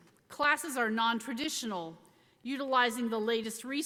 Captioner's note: none